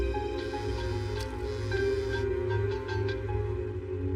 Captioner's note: cell phphone buzzeses